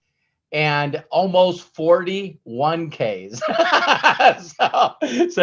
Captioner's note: laughs